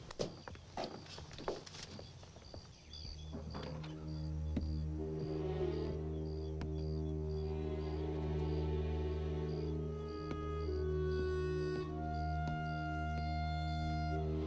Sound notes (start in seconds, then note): 2.9 crickets chirping; 4.9 low foreboding music